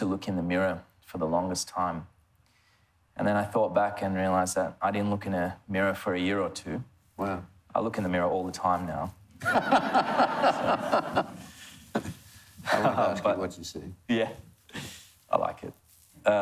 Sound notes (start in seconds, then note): 9.5 laughs